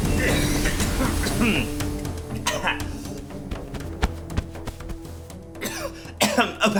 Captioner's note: coughing; cough; coughing